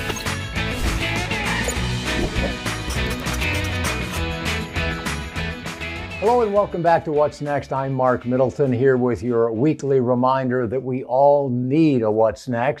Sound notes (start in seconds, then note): 0.2 upbeat guitar music; 2.8 marker scribbles